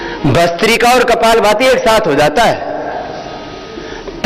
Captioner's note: breathing exercise